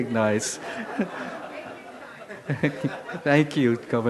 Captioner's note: crowd laughing